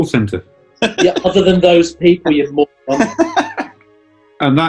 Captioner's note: laughing